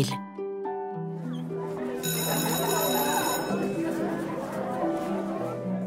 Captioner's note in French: retentissement de cloche d'école